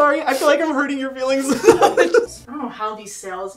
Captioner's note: both laughing